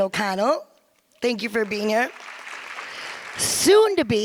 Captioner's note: audience applause